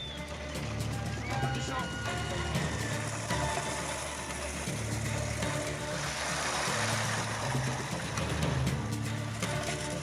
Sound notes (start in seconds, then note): 1.6 trolley tires sound